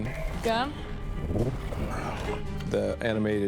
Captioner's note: burbles